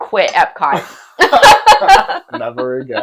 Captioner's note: laughing